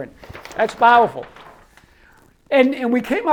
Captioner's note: paper rustles